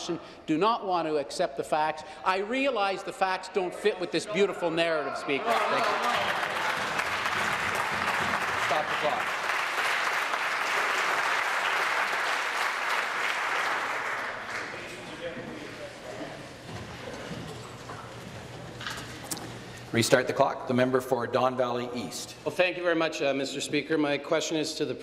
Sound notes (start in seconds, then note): 10.0 applause